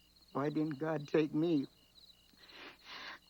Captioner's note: quiet sobbing